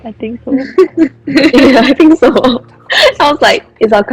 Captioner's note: laughter